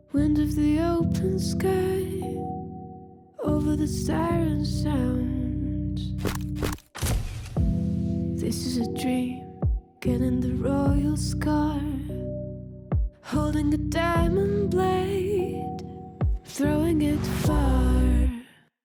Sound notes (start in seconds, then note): 6.2 camera shutters click